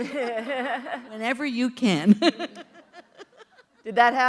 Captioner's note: laughter